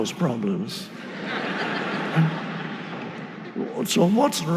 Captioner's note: audience laughing